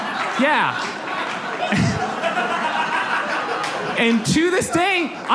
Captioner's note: audience laughs